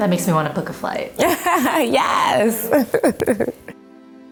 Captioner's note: laughing